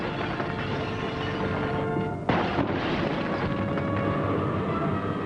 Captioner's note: loud shattering